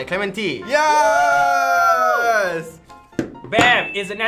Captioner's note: cheering